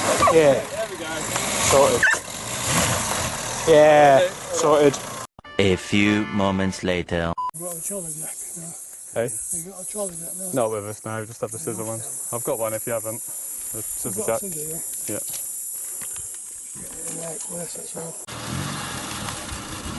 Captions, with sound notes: a few moments later *Hissing*